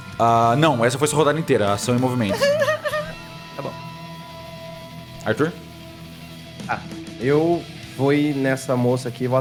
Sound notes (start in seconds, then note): 2.2 cries